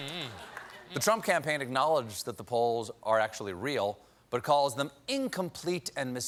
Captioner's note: laughter